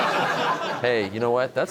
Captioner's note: laughter